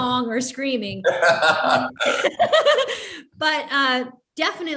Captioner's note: laughs